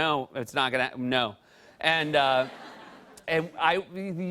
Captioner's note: light laughter